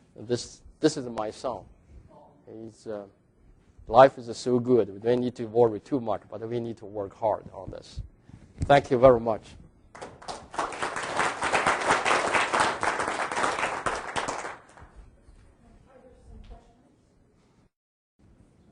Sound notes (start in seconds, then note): 9.9 audience applauding